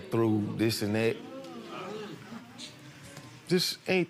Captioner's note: audience murmurs